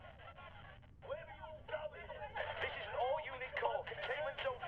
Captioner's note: angry voices in background over walkie talkie